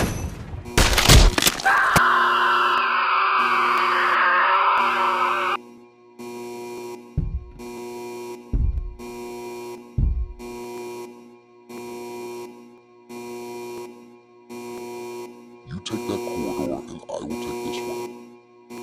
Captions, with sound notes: [Screams] - You take that corridor, I will take this one.